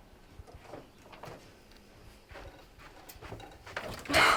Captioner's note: footsteps approaching